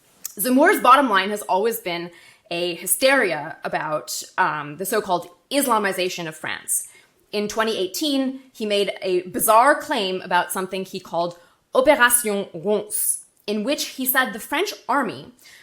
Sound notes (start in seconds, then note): 12.0 speaking French